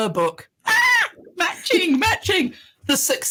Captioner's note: screams